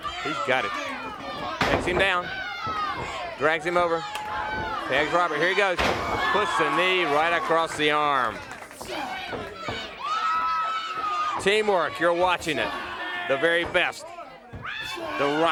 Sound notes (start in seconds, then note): 9.5 crowd chatter